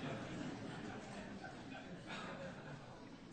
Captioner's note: laughter